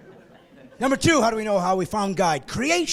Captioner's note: laughing